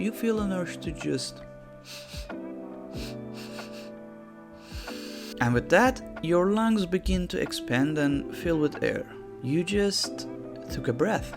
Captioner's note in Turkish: nefes alır